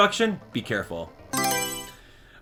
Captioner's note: Mario Selection Sound